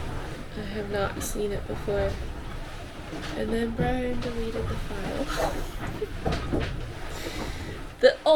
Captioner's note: laughs